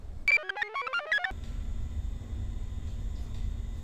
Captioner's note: computer chirps